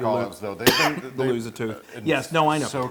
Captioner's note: cough